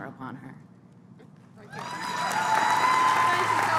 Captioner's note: applause